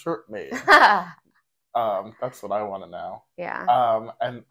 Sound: laugh

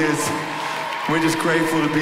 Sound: applause

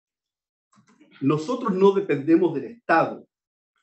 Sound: speaking spanish

